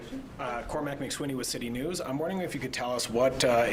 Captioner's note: speaking french